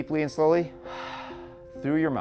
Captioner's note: exhales